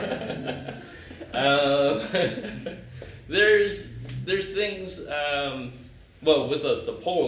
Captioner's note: laughter